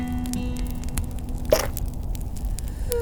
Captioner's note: pop